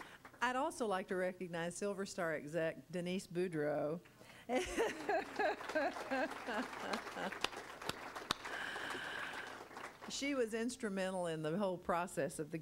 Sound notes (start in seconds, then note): 4.6 laughing; 4.8 crowd applauding